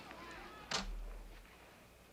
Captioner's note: locks door